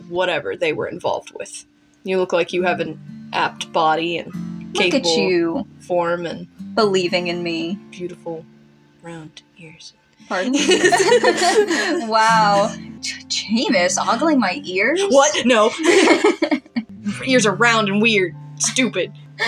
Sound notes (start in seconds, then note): 10.3 laugh; 12.7 scoff; 15.0 both Laugh; 19.0 snicker